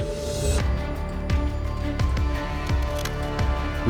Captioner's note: scissors cutting paper